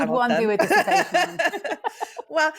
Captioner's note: all chuckle